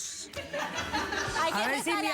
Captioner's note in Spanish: risas